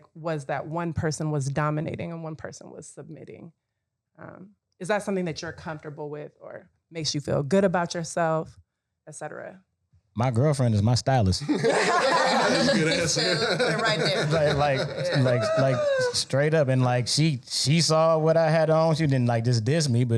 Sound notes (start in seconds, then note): 11.4 panel laughing